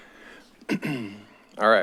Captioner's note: clears throat